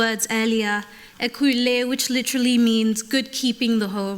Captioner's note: speaking yoruba